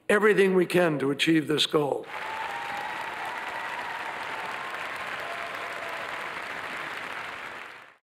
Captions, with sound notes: Everything we can to achieve this goal. (people cheering) (people applauding)